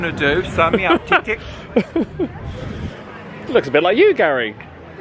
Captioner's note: laughing